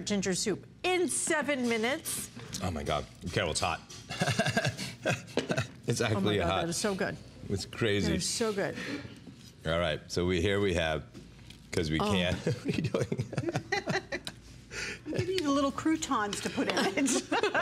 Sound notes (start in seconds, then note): 12.2 laughter; 16.6 laughter